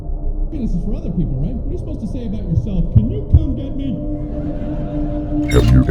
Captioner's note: TV sounds